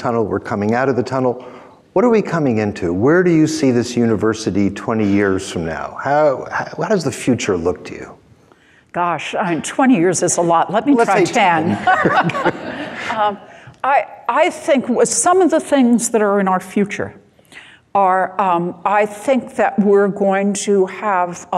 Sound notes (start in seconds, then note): 10.8 all laughing